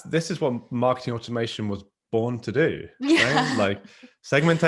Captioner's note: laughs